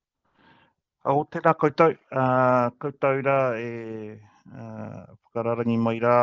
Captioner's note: speaks te Reo Māori